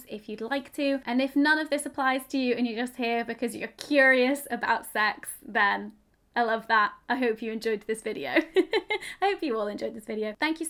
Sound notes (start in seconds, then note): 8.4 chuckles